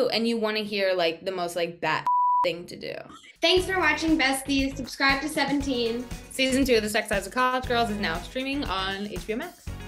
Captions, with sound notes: And you wanna hear, like, the most, like, bat (beep) thing to do. - Thanks for watching Besties. Subscribe to Seventeen. - Season two of The Sex Lives of College Girls is now streaming on HBO Max.